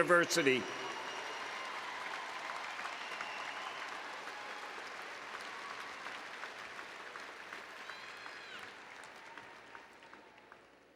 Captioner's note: applause and Cheering